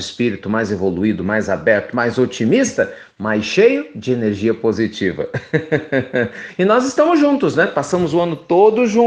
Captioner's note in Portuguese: risos